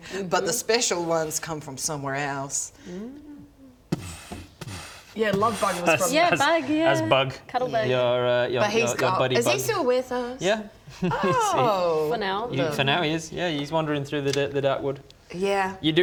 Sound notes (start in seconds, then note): 3.9 boof...boof